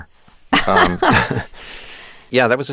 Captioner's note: laughter